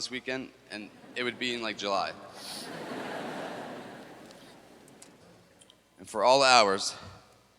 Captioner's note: laughter